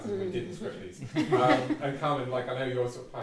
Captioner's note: all chuckle